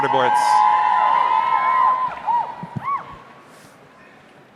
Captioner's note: audience cheering